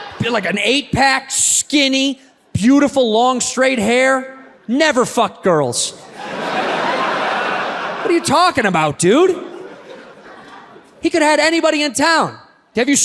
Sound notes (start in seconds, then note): 0.0 audience laughs; 6.0 audience laughs